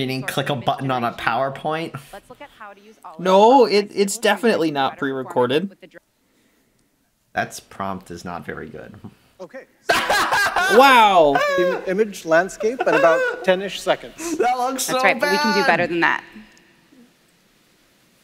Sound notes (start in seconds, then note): 9.7 laughing in bad DALL-E